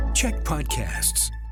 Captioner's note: announcer voice